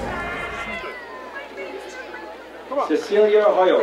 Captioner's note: crowd cheering